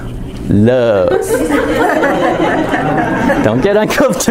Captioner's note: laughter